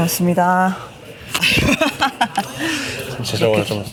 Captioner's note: laughs